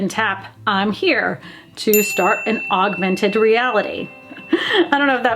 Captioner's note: bell dings; laughs